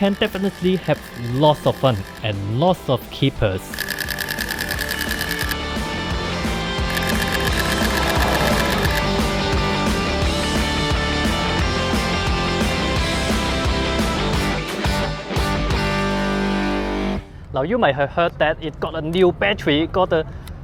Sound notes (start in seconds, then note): 5.2 rock music; 6.9 shutter clicks